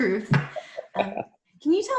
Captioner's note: laugh